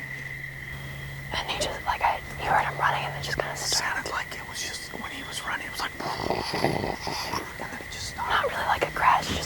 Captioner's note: whispering